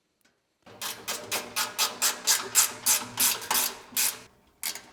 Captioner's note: wrench ratcheting